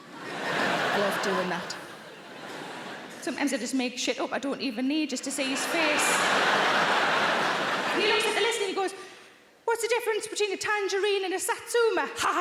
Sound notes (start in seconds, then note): 0.0 audience laughing; 5.2 audience laughing